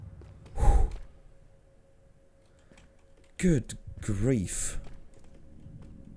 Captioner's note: sigh of relief